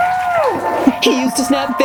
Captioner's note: applause